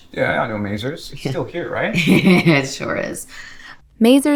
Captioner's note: Maisie chuckles